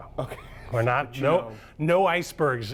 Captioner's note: laughs